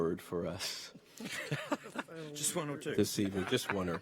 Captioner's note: chuckling